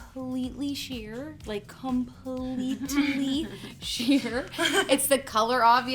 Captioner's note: laughs